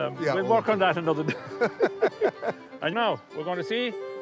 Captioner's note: both laugh